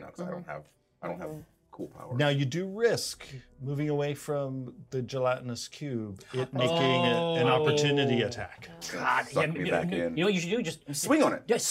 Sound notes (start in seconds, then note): none